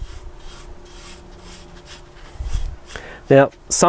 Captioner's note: light scraping